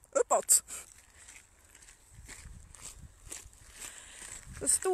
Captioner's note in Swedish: Fotsteg i gruset